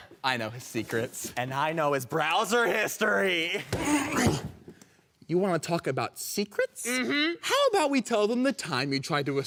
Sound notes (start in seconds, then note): 3.5 grunting